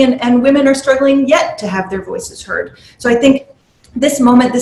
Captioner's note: none